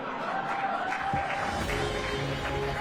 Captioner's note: applause